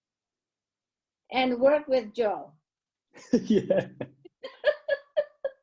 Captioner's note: laughs